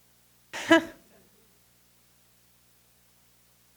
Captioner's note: laughs